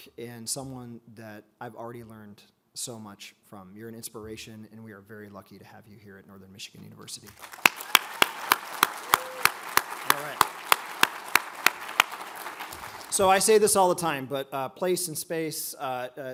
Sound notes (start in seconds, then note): 7.2 all applaud; 7.4 audience cheers